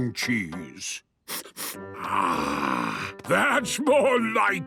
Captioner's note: sniffs